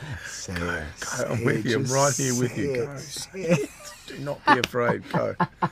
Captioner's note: laughs